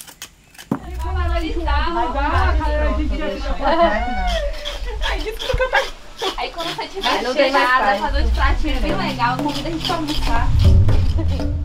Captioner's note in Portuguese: conversa animada